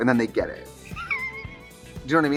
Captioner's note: Katya laughs